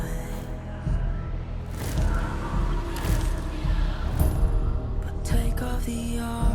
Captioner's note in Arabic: صوت الريح المشؤوم